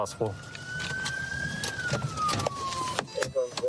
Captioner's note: sirens blaring